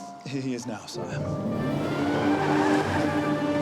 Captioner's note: engine revs